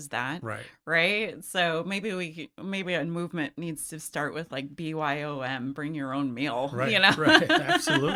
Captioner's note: laughs